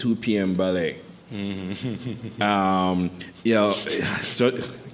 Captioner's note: chuckles